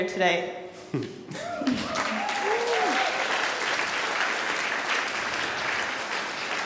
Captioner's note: excited cheering and applause